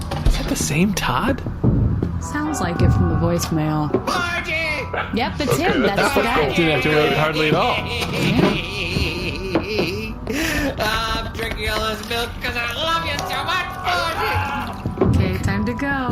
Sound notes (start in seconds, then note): 10.0 screaming